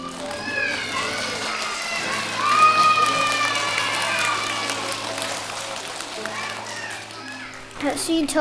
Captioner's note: applause and cheers